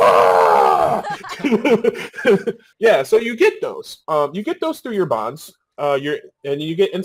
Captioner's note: laughing